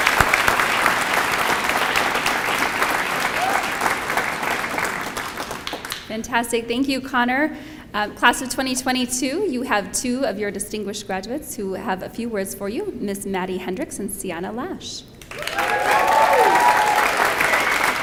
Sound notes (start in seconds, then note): 1.8 applause